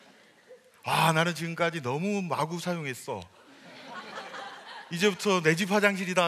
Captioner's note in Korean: 웃음